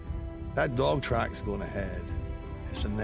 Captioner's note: scottish accent